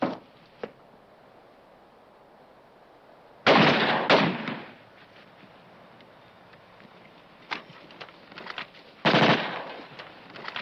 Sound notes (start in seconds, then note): 3.4 gun firing